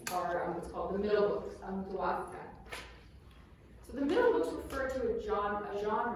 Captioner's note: non-english